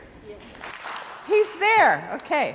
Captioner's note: crowd applauds